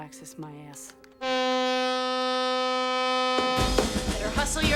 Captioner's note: blaring